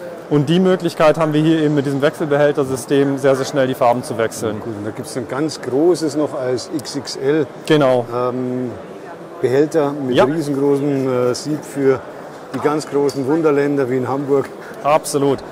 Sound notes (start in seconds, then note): 14.1 laughs